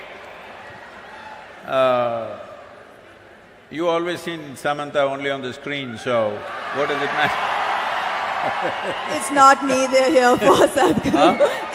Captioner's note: cheering/Applause